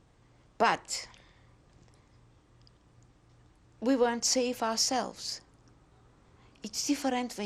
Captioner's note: pauses for 3 seconds